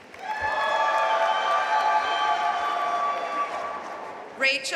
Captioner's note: audience cheering and applauding